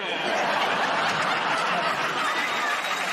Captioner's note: laughter; applause